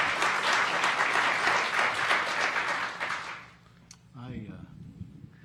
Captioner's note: audience applauding